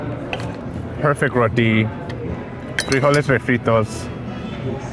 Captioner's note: speaks Spanish